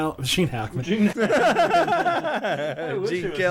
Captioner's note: laughter